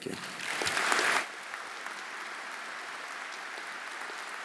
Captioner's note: audience applauding